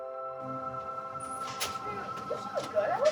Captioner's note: doors swing open